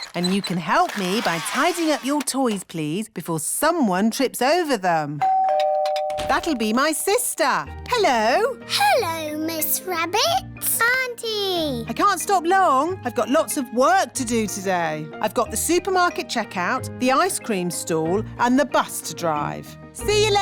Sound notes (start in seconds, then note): 5.2 doorbell rings